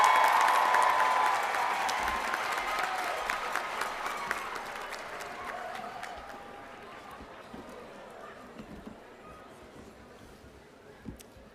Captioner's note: cheers and applause